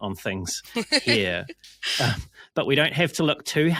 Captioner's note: laughing